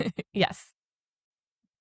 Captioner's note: chuckles